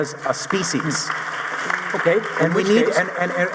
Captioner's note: audience applauding